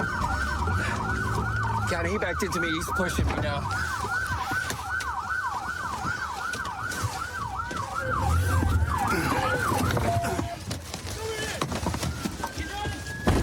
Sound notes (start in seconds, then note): 3.8 sirens blaring